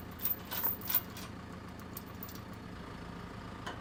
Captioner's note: metal clanking